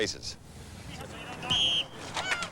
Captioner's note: whistle